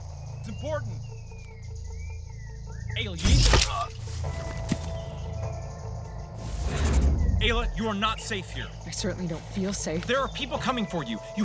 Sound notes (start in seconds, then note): 3.2 gunshot; 6.0 digital zapping